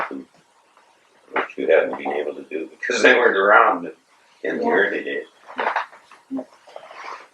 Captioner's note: laughs